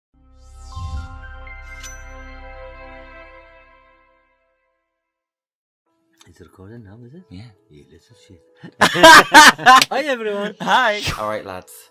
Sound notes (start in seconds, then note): 0.2 introductory music; 8.6 laughter